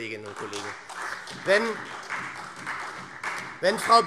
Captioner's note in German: Beifall SPD und DIE LINKE